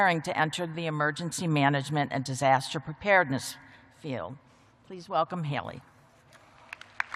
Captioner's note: applause